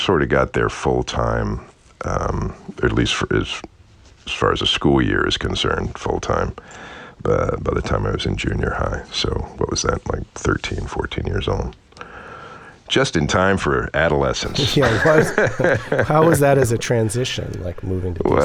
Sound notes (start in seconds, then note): 14.4 laughter